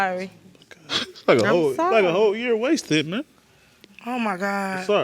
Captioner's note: sobbing